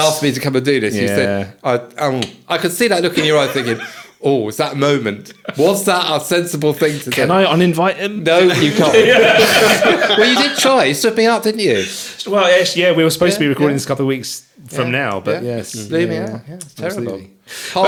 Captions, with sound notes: asked me to come and do this. You said, I could see that looking your eye, thinking, oh, it's that moment. Was that a sensible thing to do? Can I uninvite him? No, you can't. (laughing) We did try, you stood me up, didn't you? Well, yeah, we were supposed to be recording this couple of weeks from now, but. Yeah, yeah, yeah. Terrible.